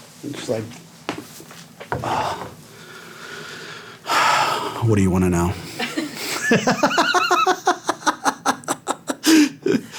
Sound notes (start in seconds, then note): 5.6 laughing